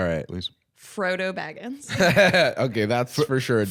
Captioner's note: laughs